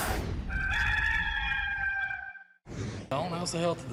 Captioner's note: rooster crows